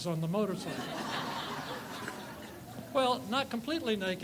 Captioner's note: group laughs